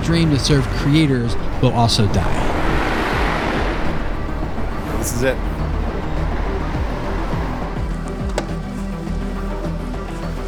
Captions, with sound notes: dream to serve creators will also die. (traffic noise) - This is it. ( electronic music)